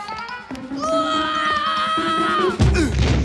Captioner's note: screaming